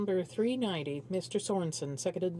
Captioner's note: speaking French